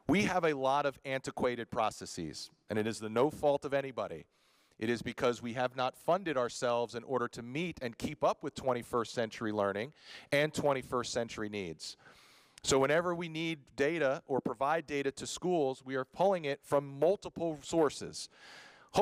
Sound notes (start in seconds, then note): none